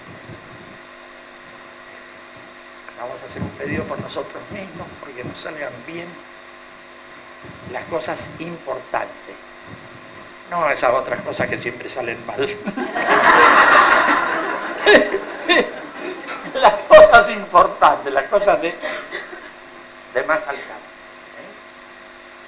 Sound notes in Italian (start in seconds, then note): 12.6 risate